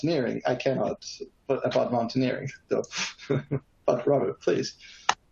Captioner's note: laughing